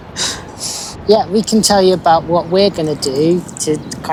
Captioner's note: sound of laughing